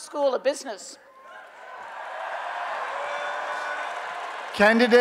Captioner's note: applause and Cheering